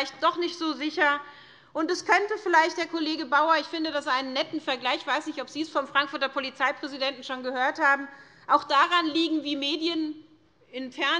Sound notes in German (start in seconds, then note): none